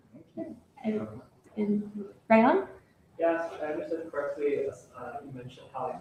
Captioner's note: none